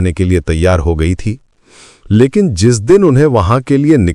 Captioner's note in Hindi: नाक से की जाने वाली आवाज़